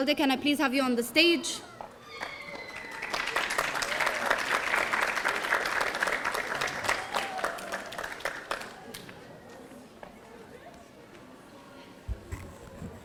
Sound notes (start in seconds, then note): 2.1 audience applauding; 2.2 audience cheering